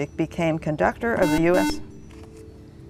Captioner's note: buzzer